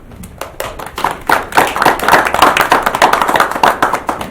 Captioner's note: applause